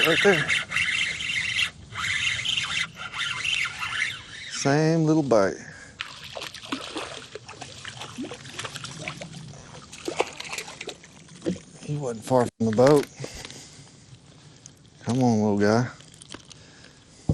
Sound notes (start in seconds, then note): 0.0 fishing line reeling; 5.9 water splashing